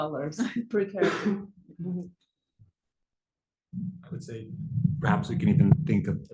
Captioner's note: laugh